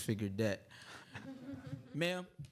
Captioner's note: audience chuckling